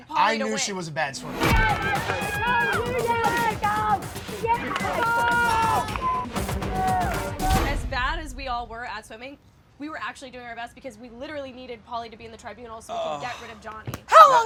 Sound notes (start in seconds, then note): 1.3 crowd cheering; 1.7 dramatic music